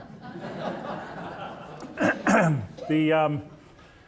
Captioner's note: audience laughing